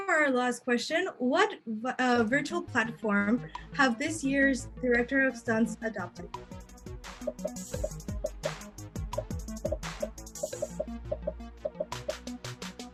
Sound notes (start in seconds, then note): 6.7 popping; 6.7 upbeat music